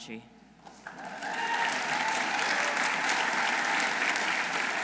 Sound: audience applauding

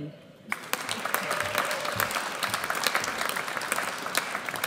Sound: audience cheers

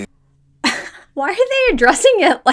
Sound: laughing

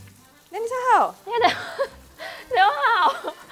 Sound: laughs

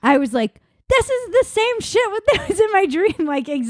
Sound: laughing

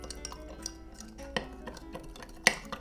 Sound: stirring intensifies

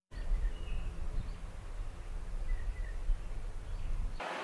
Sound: birds chirping

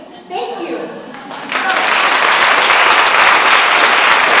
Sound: applause

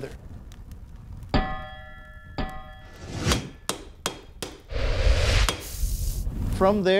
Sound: clanging

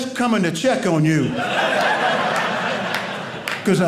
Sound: audience laughing

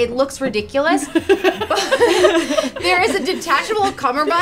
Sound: laughs

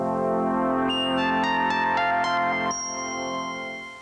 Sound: beeping

